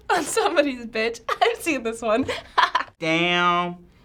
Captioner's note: laughing